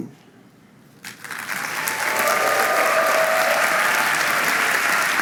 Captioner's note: applause